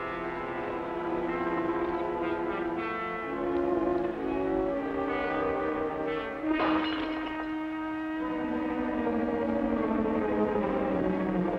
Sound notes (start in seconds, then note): 6.5 glass crashes